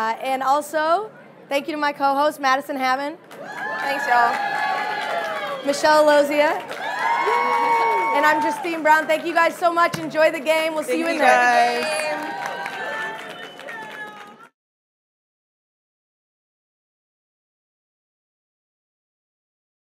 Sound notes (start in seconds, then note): 3.3 audience cheering; 13.6 audience clapping